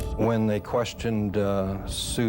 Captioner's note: camera shutter click